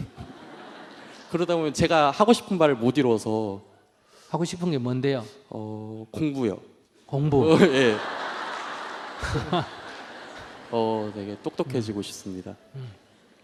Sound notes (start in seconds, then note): 0.0 audience Laughter; 7.4 audience Laughter